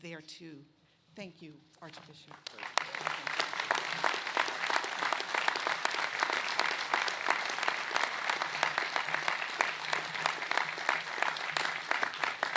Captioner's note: applause